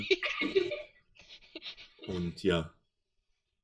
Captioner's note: giggles